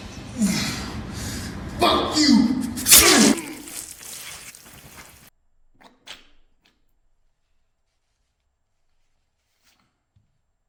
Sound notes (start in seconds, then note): 2.7 winces; 2.8 flesh squishes; 2.8 knife slices; 5.5 Don chokes